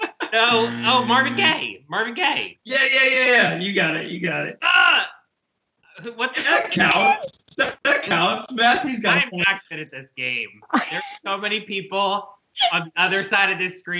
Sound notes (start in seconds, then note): 5.2 grunt